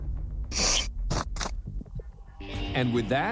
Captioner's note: sniffles